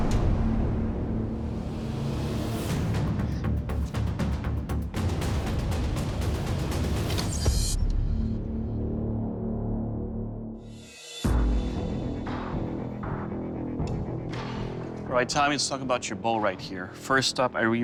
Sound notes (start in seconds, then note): 7.1 arrow whistles, strikes; 10.7 tense music